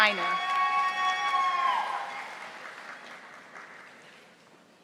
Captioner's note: audience applauding